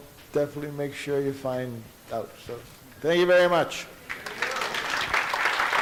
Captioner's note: audience applauds